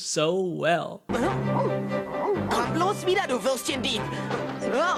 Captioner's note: speaking in foreign language